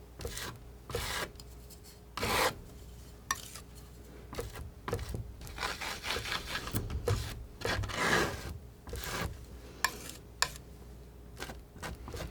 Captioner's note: scratching